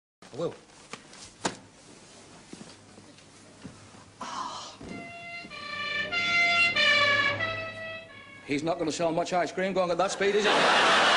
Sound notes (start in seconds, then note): 5.0 ambulance siren passing by quickly